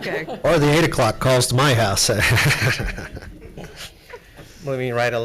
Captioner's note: laughs